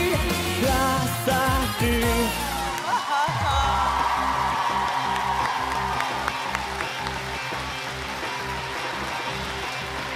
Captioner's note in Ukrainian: оплески